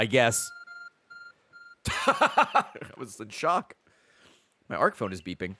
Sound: laughs

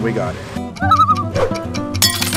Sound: loon call

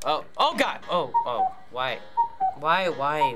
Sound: cuckooing

